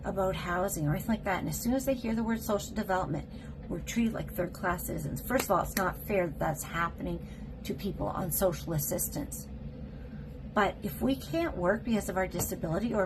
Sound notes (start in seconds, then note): 5.3 clap